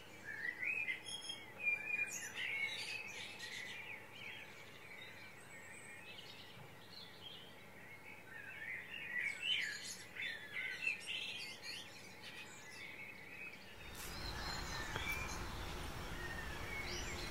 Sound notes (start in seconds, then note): 1.0 birds singing